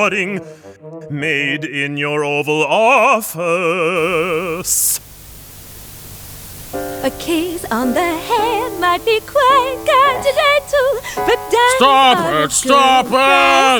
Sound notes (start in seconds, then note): 7.1 recording static